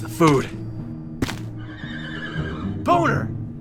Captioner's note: horse neighs in the distance